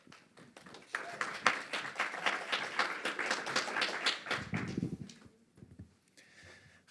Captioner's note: applause